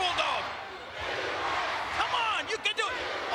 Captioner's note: spectators cheering